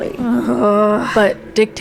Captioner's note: groan